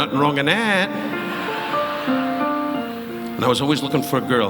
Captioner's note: audience laughing